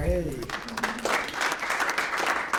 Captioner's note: applause